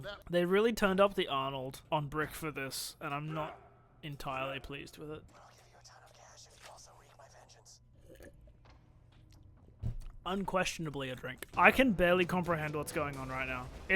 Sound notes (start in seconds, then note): 7.9 loud drink slurping